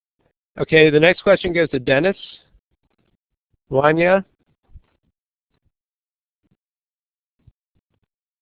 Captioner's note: pause